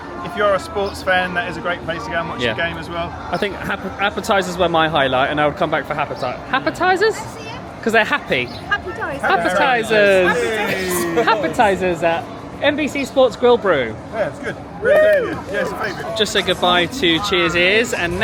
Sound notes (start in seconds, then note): 14.8 group cheering